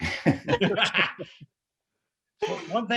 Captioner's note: laughter